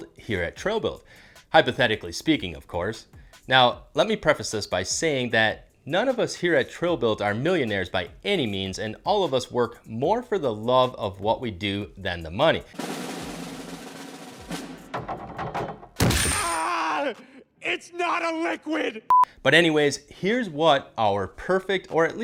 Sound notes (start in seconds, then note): 12.7 drum roll; 14.6 diving board bouncing; 15.6 crash landing; 16.7 coins clinking